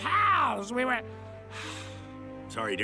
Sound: sighs

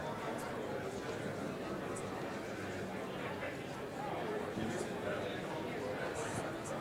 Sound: collective chatter

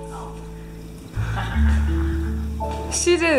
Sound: evil laugh

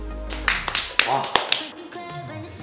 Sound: clap, clap, clap

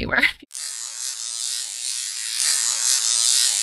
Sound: sizzling sound

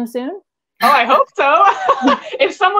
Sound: laughs

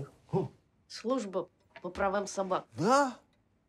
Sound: speaks in Russian

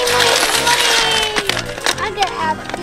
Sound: clinking

